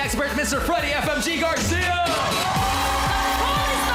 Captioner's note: audience cheering